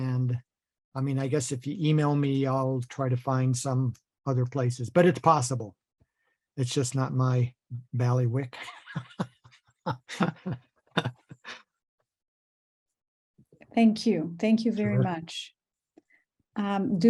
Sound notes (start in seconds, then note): 8.1 laughter